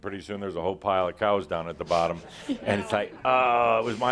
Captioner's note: some laughter